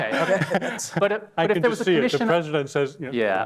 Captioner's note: laughter